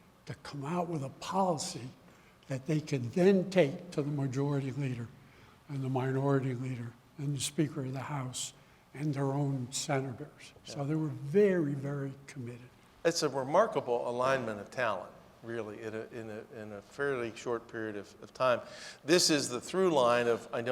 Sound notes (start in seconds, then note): none